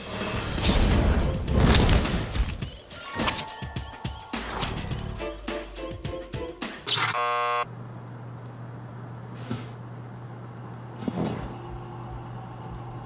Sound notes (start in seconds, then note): 6.8 chirp-bzz